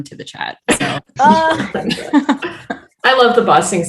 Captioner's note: all laughing